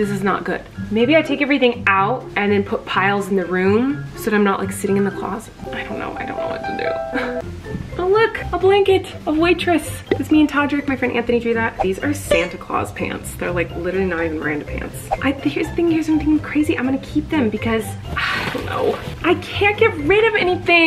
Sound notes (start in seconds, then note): 6.8 dramatic music; 12.0 whooshing; 15.1 whooshing